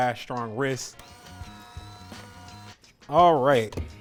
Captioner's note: beater running